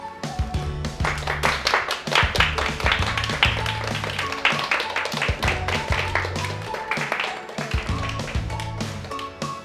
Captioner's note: applause